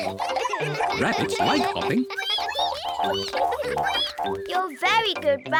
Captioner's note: all giggle; all squeak